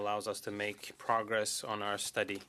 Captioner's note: speaking French